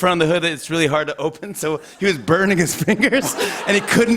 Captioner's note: laughter